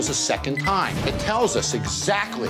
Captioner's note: scanner beeping